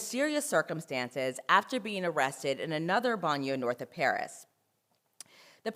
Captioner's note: french